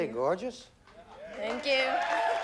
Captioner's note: applause